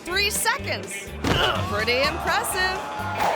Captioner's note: head thuds